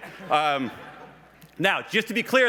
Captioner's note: laughs